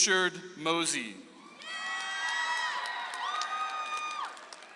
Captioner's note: audience applauds